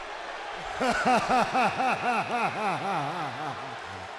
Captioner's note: warrior laughs